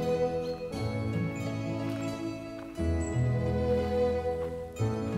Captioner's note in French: chant des oiseaux et bruits de pas